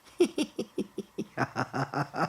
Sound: laughs

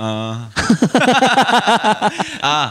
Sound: laughs

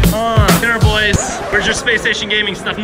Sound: record skips

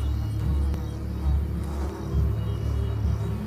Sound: flies buzzing

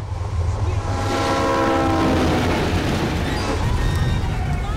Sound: train horn blaring

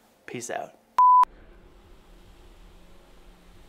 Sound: beeping

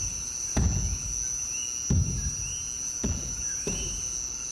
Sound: feet thumps

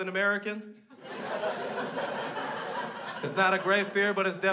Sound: crowd laughs

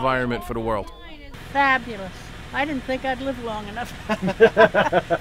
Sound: laughter

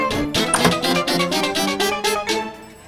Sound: door opening

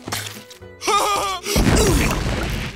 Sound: laughing

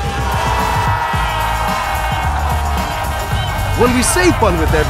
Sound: cheering

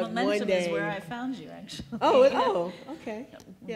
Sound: laughs

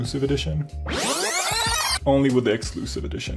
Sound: rewind sound

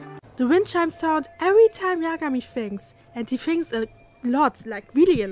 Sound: wind chime sound looping in the background

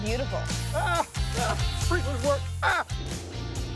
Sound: screaming; upbeat music

